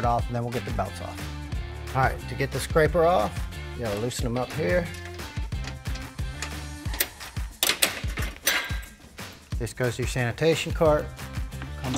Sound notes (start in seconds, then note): 5.8 screws rattle; 7.5 part clanks